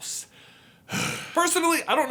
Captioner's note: disapproving sigh